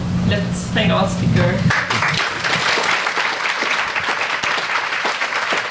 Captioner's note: audience applauds